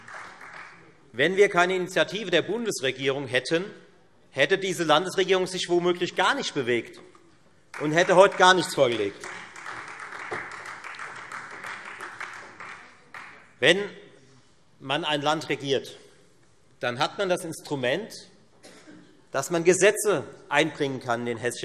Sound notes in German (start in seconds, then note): 9.2 Beifall